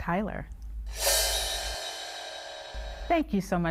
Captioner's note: graphic whooshing